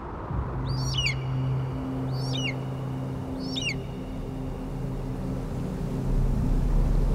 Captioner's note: bird squawking